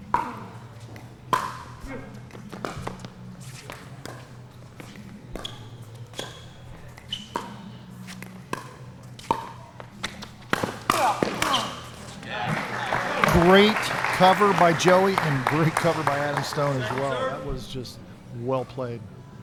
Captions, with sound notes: (ball being hit) (ball being smacked) (applause) Great cover by Joey and great cover by Adam Stone, as well. That was just well played.